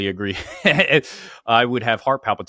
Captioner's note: laughs